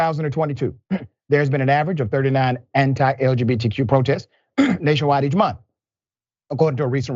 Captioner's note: cough